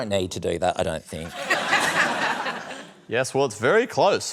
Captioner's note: laughter